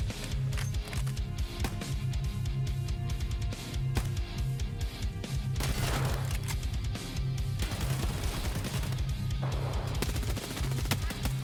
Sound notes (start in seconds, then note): 0.2 hardcore music; 7.6 rapid gunfire